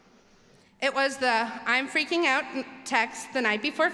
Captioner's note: none